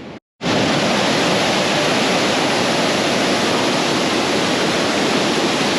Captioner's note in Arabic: صوت مياه متدفقة